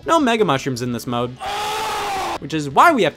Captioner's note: man in hat grunts